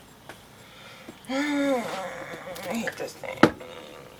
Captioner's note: groans